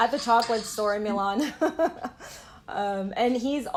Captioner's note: laughter